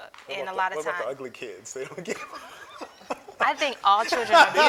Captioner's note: laughing